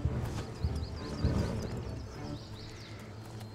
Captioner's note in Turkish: Kuş cıvıltısı sesleri